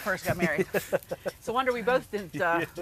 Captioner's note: laughs